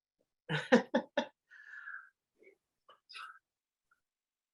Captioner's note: chuckles